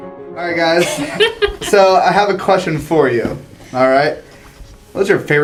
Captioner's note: laugh